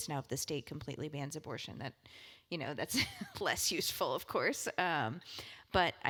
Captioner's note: laugh